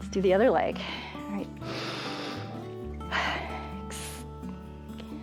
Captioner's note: inhales and exhales